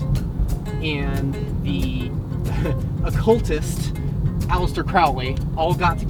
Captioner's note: chuckle